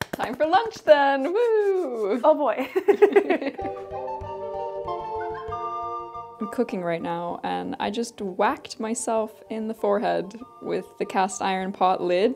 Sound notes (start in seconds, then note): 2.7 both chuckle; 4.3 cheerful medieval music